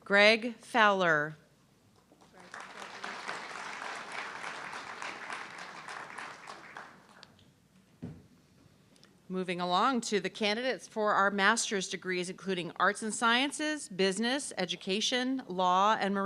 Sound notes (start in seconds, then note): 2.0 audience clapping